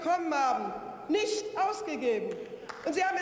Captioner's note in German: Beifall